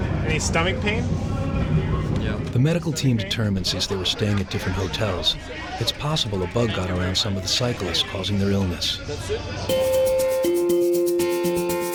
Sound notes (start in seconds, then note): 2.5 voiceover; 9.7 upbeat music